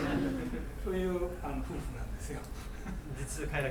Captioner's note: laughing; coughing; speaking in foreign language